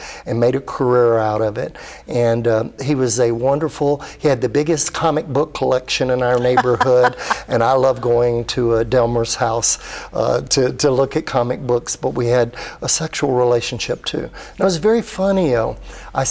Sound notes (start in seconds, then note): 6.3 laughs